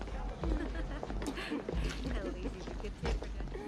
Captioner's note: woman laughing; indistinct chatter